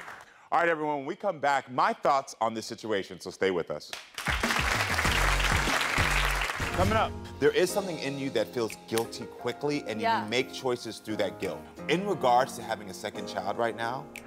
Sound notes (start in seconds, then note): 4.0 audience applauding